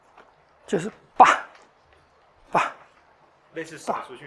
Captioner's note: sound of throwing